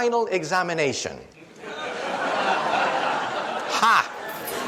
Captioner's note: audience laughs